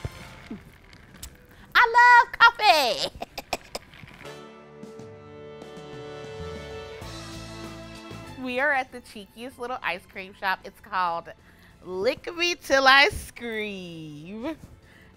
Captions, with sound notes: (energetic music) I love coffee! (laughs) (energetic music) We are at the cheekiest little ice cream shop. It's called Lick Me Till Ice Cream.